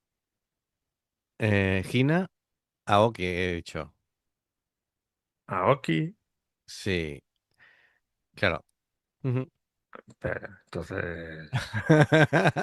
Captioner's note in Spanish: risas